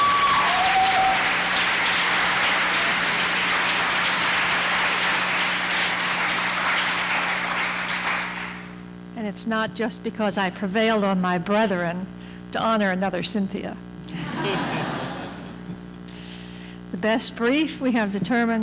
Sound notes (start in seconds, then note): 14.1 laughter